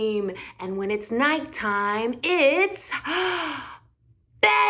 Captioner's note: gasp